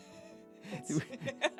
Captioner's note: laughing